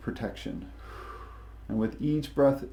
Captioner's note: exhales deeply